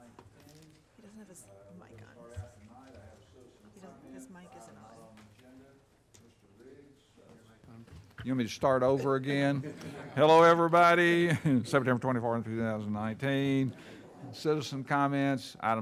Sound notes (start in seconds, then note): 3.4 speaks faintly; 9.7 audience chuckling; 11.2 chuckles